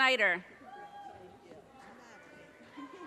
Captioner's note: audience cheers and applause